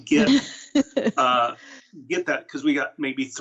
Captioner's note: laughing